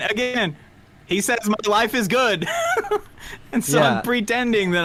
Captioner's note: laughs